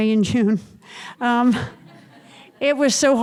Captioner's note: audience chuckles